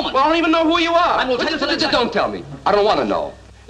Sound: fast outburst

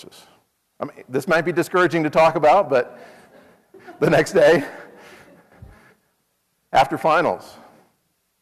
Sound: laugh

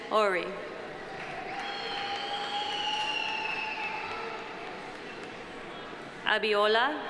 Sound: audience applauding; audience cheering

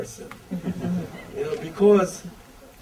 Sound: audience laughter

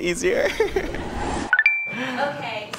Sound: electronic beep

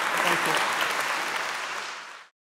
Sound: audience applauding

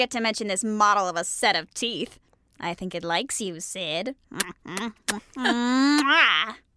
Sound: smooching sounds

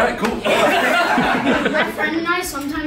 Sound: laughing

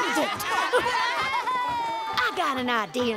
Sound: laughing

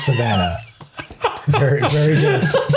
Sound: laughing

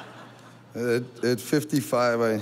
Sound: audience laughing

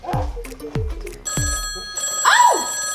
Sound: phone rings

